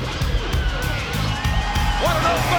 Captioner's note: crowd cheering